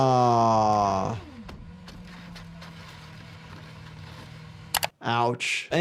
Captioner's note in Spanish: ruido del motor; ruedas raspando